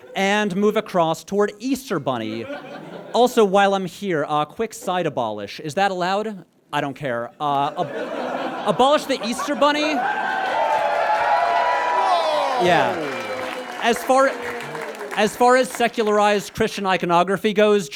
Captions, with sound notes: and move across toward Easter Bunny. Also, while I'm here, a quick side abolish. Is that allowed? I don't care. Abolish the Easter Bunny. (audience cheers ecstatically) Woah! Yeah. As far— (scattered boos) As far as secularized Christian iconography goes,